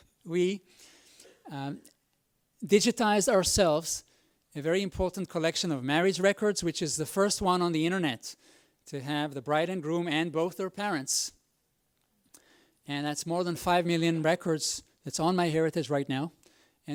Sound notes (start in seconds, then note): none